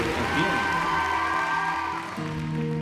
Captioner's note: cheering and applause